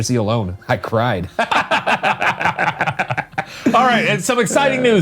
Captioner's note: laugh